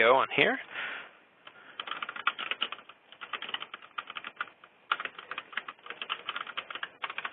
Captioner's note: keyboard clicking